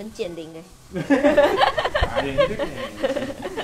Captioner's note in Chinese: 哈哈哈哈哈